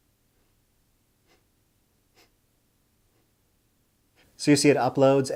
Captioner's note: sniffling